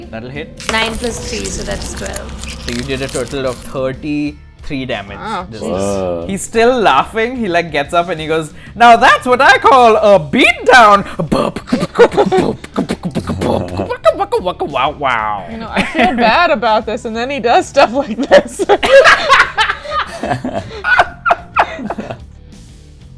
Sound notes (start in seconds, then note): 12.1 beatboxes; 18.0 laughter